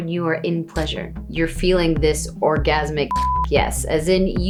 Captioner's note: beep